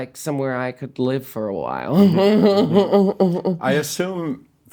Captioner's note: laughing